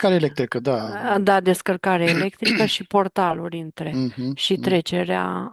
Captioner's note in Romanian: voce dreasă